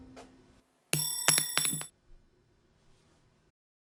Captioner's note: a ring falls to the ground